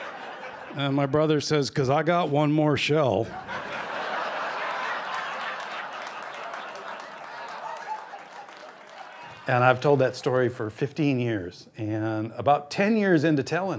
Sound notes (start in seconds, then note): 3.2 laughter; 6.3 applause